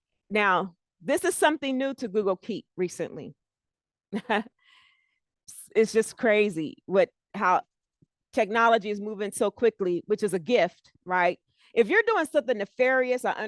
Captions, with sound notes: Now, this is something new to Google Keep, recently. [CHUCKLES] It's just crazy how technology is moving so quickly, which is a gift. If you're doing something nefarious,